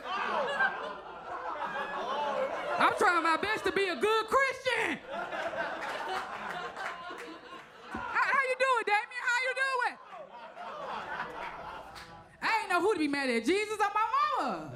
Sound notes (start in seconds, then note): 0.8 audience laughs; 5.2 audience laughs and claps; 9.2 audience laughs